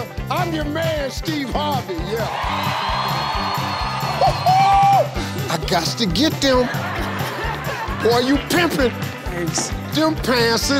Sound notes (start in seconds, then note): 1.9 crowd cheering; 4.5 Steve cheering; 6.5 laughing